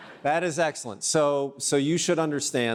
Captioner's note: audience laughs